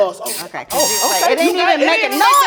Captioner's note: loud whistle